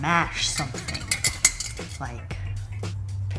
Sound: pot rattling

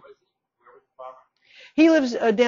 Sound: speaking off mic

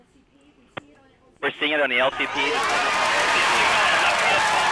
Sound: wild celebration

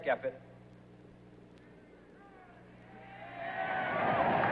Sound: cheers

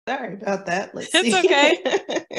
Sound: chuckles

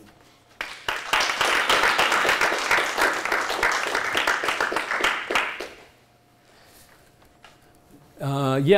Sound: applause

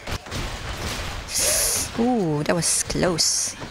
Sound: more Parseltongue soundd

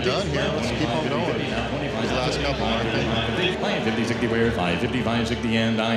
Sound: auctioneer calling

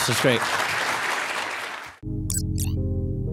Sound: applause; soft music

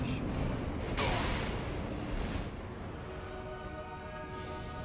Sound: wall breaking; intense music

